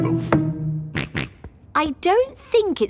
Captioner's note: snorts